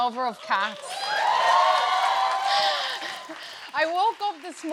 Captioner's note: cheers and applause